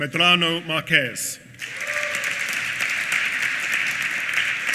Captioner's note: applause